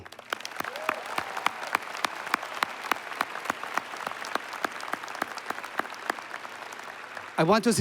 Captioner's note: applause